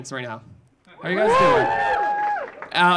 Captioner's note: audience cheering